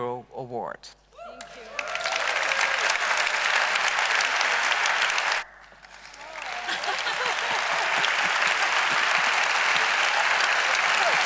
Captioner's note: applause